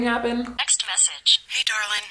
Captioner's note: phone audio